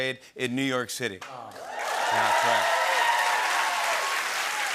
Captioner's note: cheers and applause